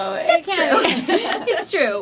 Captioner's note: laughter